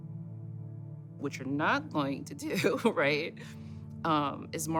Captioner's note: laughs